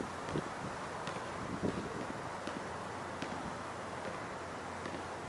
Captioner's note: basket ball tapping